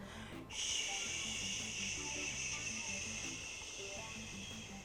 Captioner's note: shushes